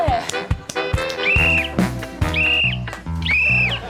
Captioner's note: whistle blows; whistle blows twice